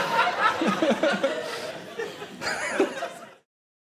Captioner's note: laughing